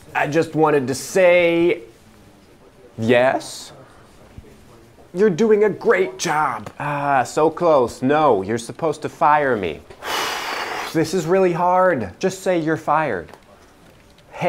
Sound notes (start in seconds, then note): 10.0 exhales deeply